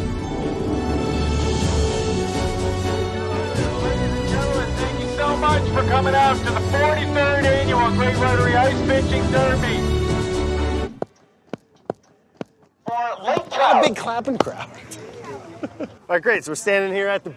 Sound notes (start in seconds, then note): 11.0 clapping